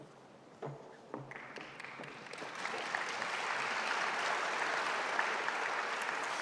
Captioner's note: audience applauding